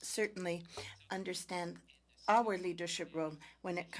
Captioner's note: speaking French